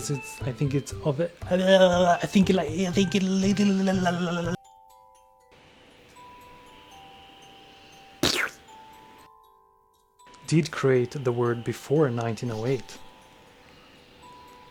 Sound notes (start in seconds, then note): 8.2 makes squishy sound effect with mouth